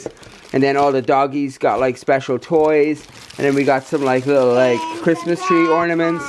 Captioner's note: none